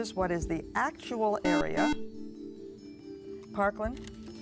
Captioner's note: buzzer